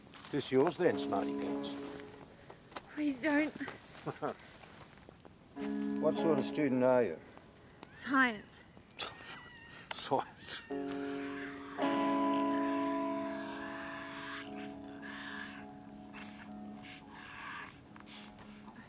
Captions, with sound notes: - This yours then, smarty pants? - Please don't. What sort of student are you? - Science. - Oh fuck, science. (Tasmanian devil shrieking)